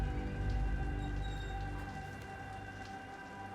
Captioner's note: water running